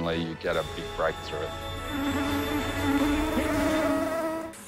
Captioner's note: swarm of mosquitos buzzing